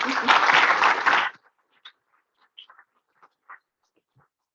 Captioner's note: audience applauds